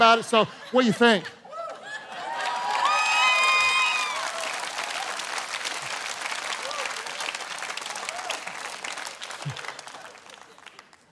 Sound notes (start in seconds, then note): 1.6 congregation cheering